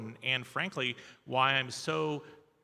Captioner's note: none